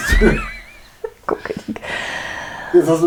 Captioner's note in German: lacht